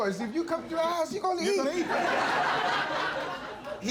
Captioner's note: audience laughing